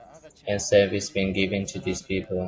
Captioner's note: Arabic; Vietnamese